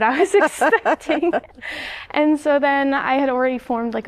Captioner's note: laughter